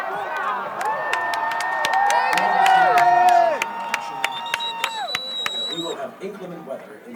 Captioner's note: crowd chattering